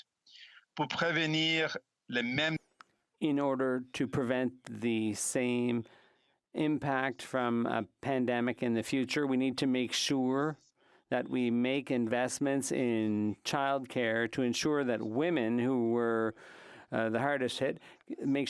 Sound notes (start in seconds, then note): 3.9 speaking French